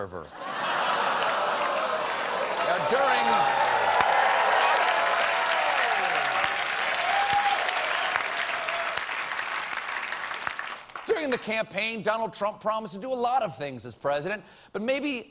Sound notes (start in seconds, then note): 3.4 applause; 3.4 audience reacts